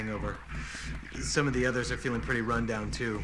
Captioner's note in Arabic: يستنشق بعمق